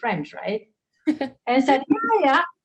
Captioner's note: laughs